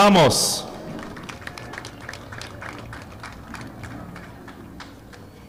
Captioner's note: audience clapping